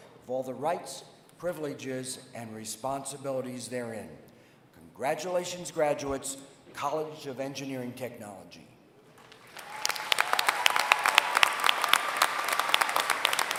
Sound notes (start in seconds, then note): 9.1 applause